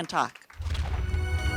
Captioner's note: applause